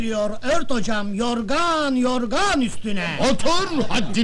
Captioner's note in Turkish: gülüşürler